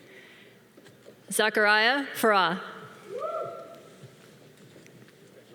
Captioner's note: man cheering